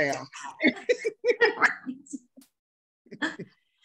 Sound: laughing

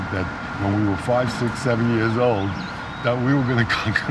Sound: laughing

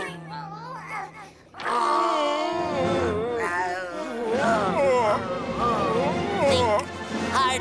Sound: groaning

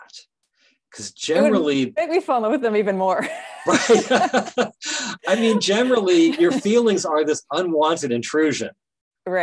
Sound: both laughing

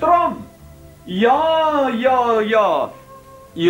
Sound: speaking bad Swedish

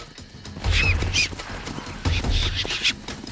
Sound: squealing

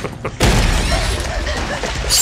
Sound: sinister laughing; door bursts open

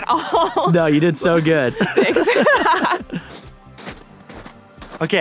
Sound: laughs

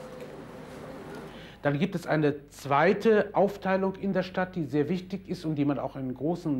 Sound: speaking in a foreign language

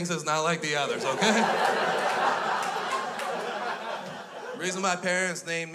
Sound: crowd laughs

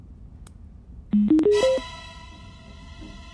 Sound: device beeps

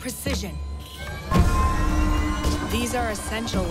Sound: engine whirring

